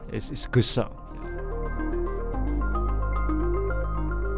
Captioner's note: voiceover